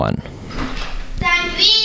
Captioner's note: door opens